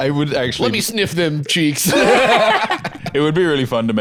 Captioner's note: laughs